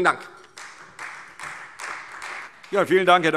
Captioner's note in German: Beifall Freie Demokraten